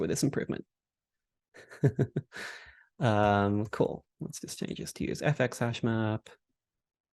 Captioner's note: laughs